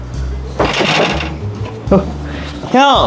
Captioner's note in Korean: 똑똑